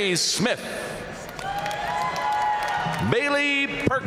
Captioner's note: audience cheering and applauding